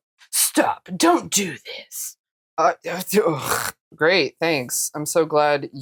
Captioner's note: gibberish noise